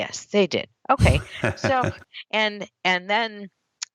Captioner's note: laughs